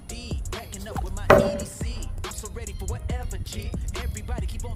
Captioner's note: loud clang